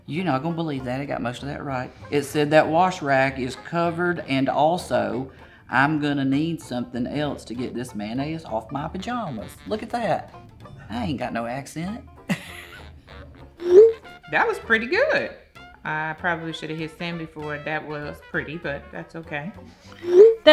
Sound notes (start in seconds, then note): 12.0 laughs; 13.5 text whooshing